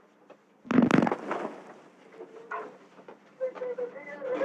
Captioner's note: explosion